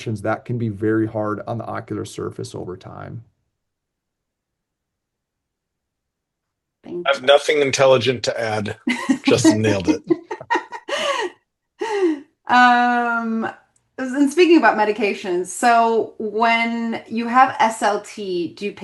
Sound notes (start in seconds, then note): 8.8 laughs